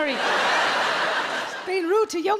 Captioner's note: audience laughs